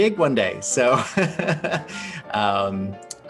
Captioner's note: laughing